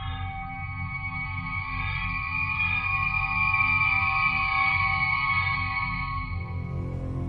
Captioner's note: transporter beam-in whine